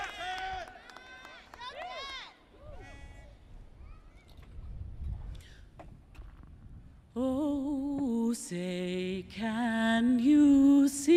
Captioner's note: cheering and applause